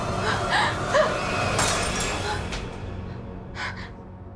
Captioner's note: glass breaks